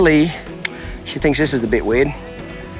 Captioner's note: mouth clicking